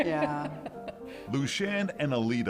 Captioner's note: chuckles